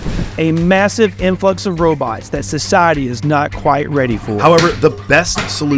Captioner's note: podcast Voice